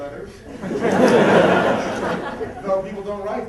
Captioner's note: laughter